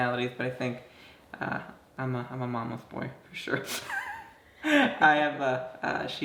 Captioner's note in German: lacht